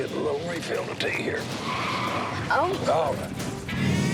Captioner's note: tires screech